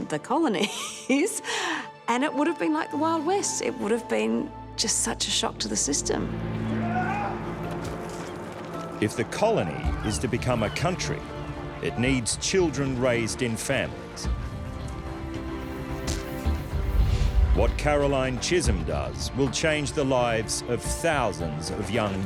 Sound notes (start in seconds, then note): 0.6 chuckles; 6.7 men brawling